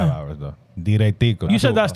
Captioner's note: speaking In Foreign Language